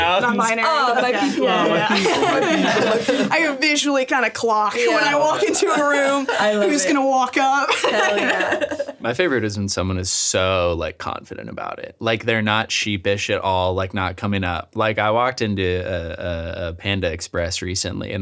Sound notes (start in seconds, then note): 2.7 overlapping chatter